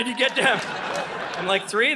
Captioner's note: audience laughing